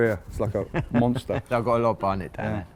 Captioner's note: laughing